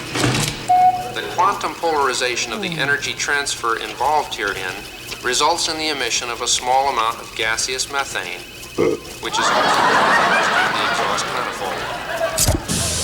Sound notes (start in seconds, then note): 0.7 beep; 8.7 Muppet burps; 9.2 audience laughs; 12.4 pipe hissing